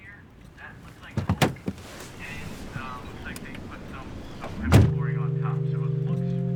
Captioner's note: car door opening and closing